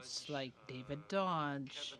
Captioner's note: speaking French